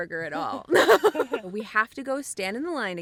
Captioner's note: both Laugh